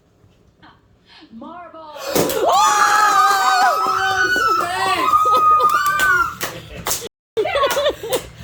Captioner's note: narrative team screams